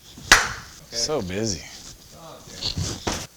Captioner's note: clap